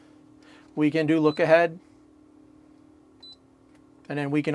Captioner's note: beeping